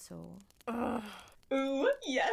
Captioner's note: Both Marlene and Lily groan